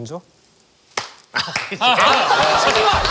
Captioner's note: claps